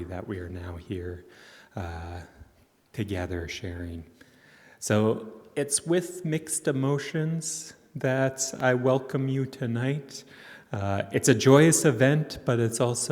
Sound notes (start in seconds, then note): none